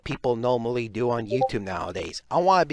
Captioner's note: Discord ping